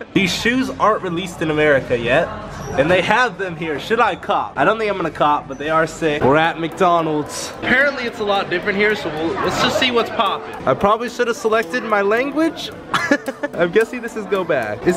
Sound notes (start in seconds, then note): 12.9 laughs